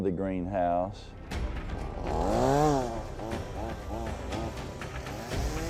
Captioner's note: chainsaw revving